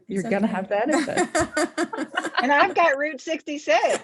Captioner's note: all laughing